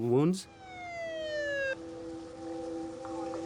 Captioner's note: siren wails; ominous music